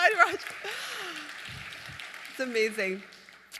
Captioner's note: applause